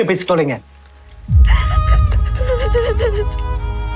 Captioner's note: sobbing